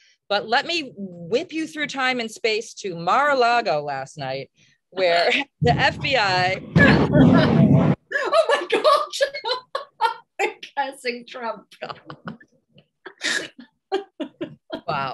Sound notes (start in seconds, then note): 5.6 thunderclap; 9.1 laughs; 11.5 laughter